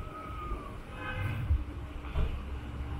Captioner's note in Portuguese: Buzina